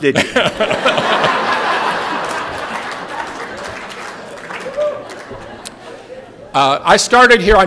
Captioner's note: laughter